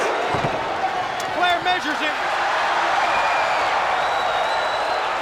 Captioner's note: crowd cheering